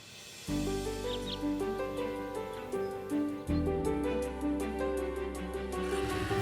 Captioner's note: music fades; gentle music; birds tweeting